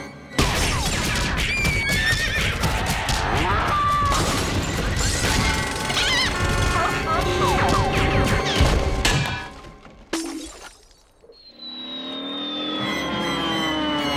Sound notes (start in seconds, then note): 1.1 shattering, banging, screaming, neighing, mooing; 4.0 car alarm blaring, clucking, seal barking, shots firing; 10.0 shattering